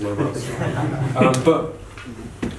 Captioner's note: laughing